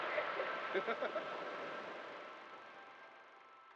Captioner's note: laughs